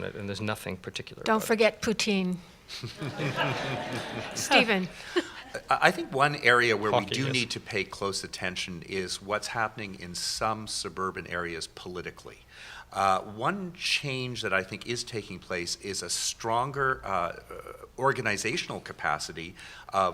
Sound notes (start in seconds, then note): 2.7 laughter